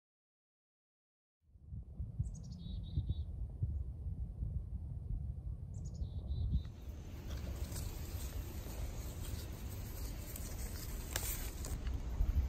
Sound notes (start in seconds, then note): 2.2 birds chirping & singing; 6.7 leaves rustling